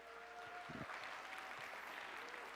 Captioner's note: applause